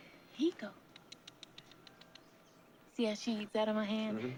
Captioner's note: clicks tongue